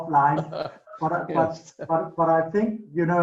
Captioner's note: laughing